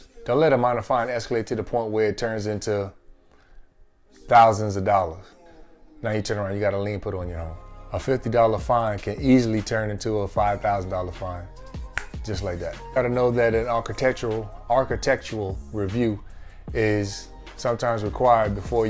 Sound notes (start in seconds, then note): 11.9 snaps